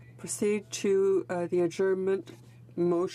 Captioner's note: speaking French